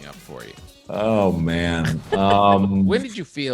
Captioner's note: laughs